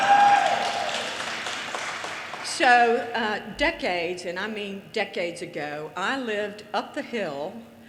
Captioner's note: audience laughter, cheers, and applause